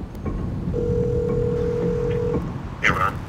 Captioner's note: phone ringing